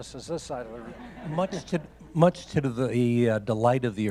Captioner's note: audience laughing